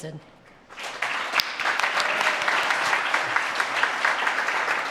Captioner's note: audience claps